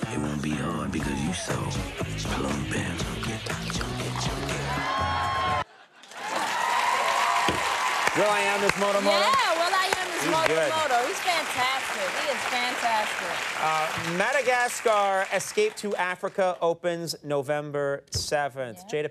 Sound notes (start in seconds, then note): 5.1 audience cheering; 6.6 audience cheering and applauding